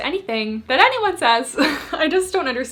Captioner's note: laughs